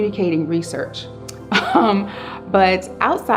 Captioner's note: laughs